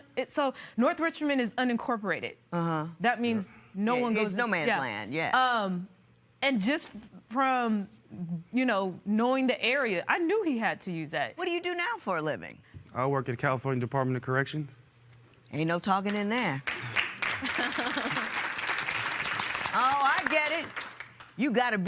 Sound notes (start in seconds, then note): 16.1 applause